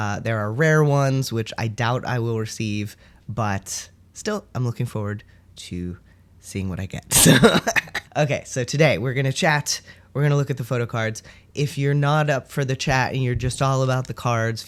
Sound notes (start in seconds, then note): 7.4 laughter